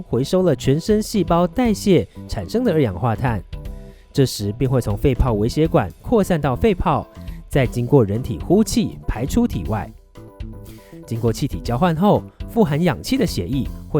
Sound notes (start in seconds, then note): 10.6 breathing out